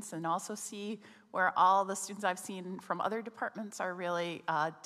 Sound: none

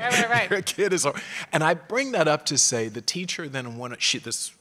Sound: laugh

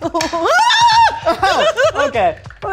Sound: laughing; screaming

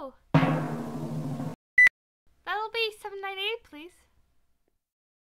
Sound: beep

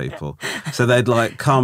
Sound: laughing

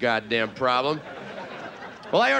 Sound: audience laughing

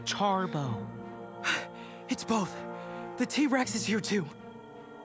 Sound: gasps

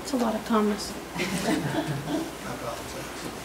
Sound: group laughs

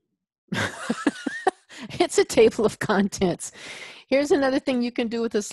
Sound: laughs

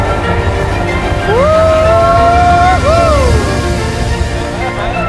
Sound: laughs

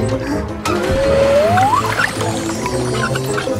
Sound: splash

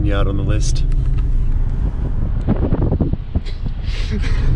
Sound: laughing

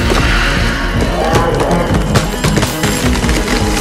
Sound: wendigo cries

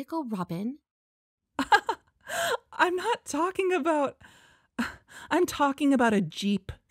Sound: laughs

